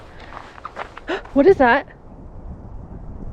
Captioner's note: gasp